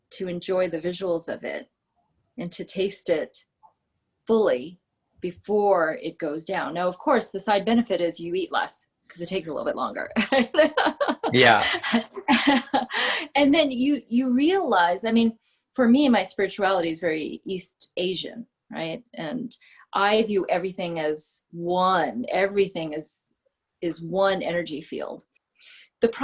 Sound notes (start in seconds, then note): 10.3 laughing